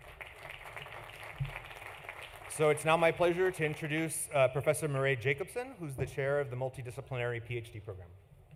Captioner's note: applause